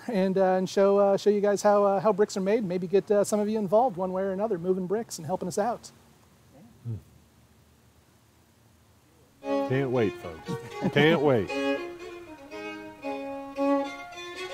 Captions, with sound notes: and show show you guys how bricks are made. Maybe get some of you involved one way or another moving bricks and helping us out. - Yeah. - Hmm. Can't wait folks, can't wait. (chuckles) (bright violin music)